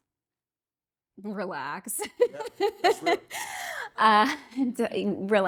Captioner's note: laughing